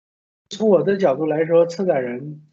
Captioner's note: Mandarin